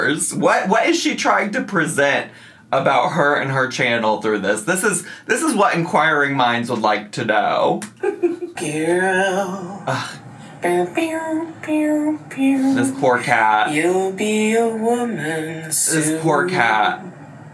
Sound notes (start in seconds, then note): 8.7 groans; 10.8 vocalizes